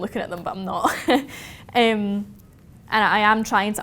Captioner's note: chuckles